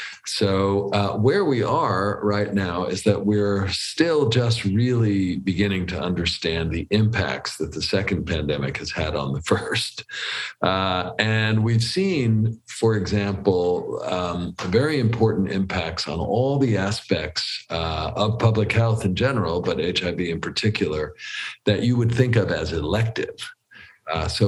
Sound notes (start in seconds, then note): 9.4 laughs